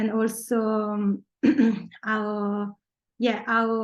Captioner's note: clearing throat